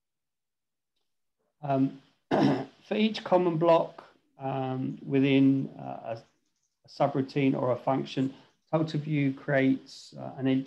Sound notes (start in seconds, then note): 2.3 clears throat